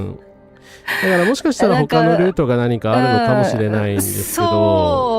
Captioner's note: laughter